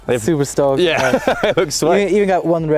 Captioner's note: laughing